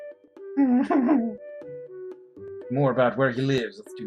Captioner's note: whimpers